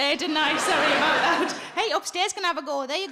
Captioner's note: audience laughing